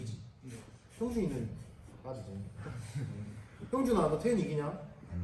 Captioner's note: laughs